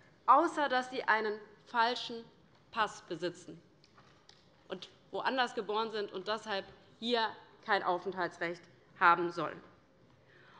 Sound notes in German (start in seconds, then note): none